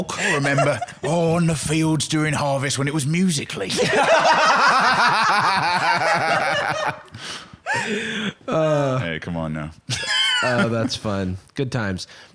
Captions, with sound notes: I remember on the fields during harvest, when it was musical.ly. (all laughing) (normal accent) Hey, come on, now. Oh, that's fun. Good times.